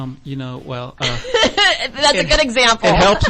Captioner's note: laughs